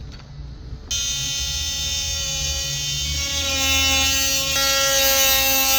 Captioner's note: machine working